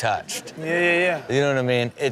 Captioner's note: audience laughing lightly